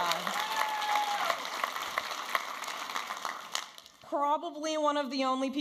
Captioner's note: audience applauding and cheering